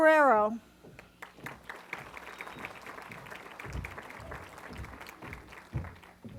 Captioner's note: applause